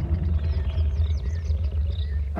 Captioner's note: lion rumbles